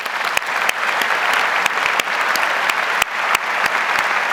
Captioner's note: audience applauds